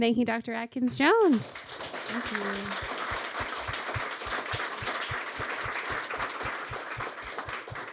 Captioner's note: applause